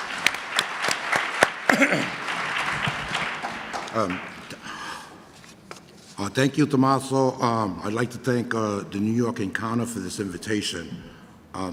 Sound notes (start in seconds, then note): 0.0 audience applause